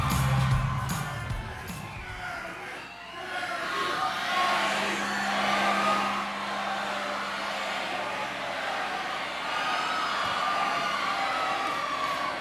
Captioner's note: applause and cheers